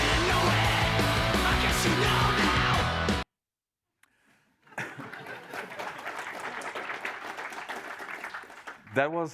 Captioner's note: applause